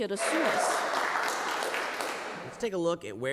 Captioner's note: applause